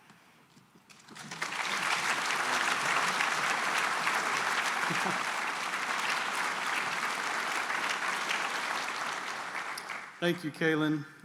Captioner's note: applause